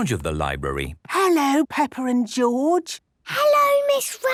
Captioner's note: whispering